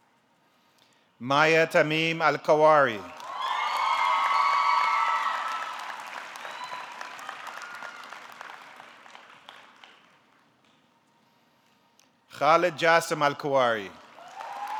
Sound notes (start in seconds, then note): 3.1 audience clapping; 3.2 audience cheering